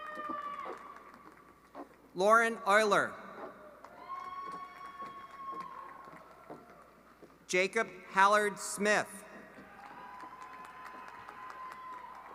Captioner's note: applause